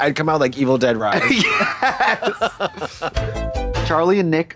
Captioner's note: Katya chortles; synth bop